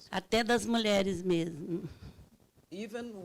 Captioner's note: speaking Portuguese